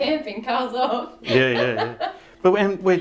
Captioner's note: laughing